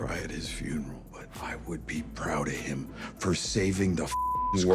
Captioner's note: beep